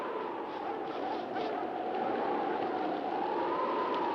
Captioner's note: dogs barking